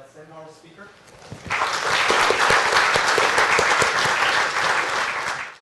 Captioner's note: applause